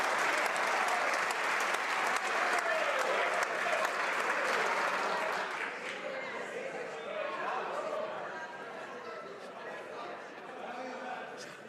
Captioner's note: some Applause